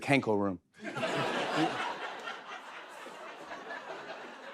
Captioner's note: laughter